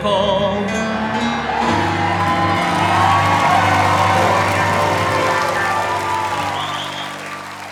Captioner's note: applause